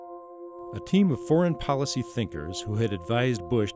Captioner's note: voiceover